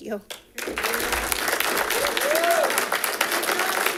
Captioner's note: audience clapping